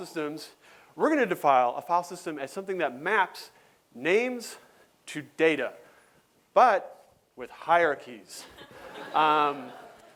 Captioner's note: laughter